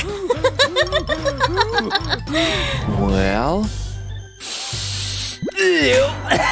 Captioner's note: sniffs